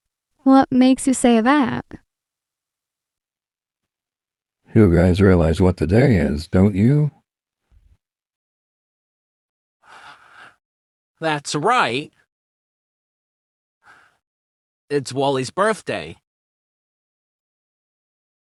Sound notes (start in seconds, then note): 9.8 inhales; 13.7 sighs